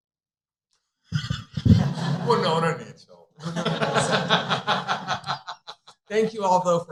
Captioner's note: laughter